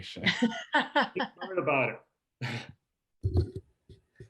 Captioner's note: group laughs